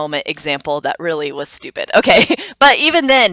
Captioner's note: chuckles